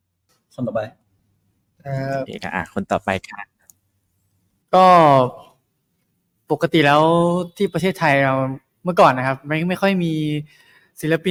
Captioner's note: in Thai